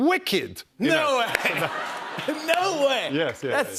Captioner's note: laughter